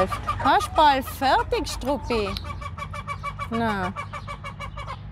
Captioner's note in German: lautes Gackern